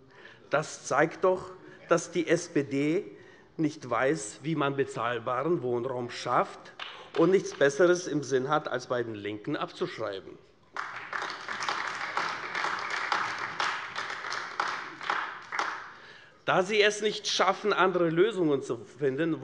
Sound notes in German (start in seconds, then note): 10.7 Beifall AfD